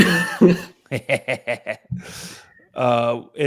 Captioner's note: laughter